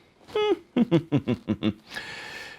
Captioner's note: chuckles to himself